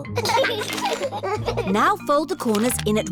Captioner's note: both giggling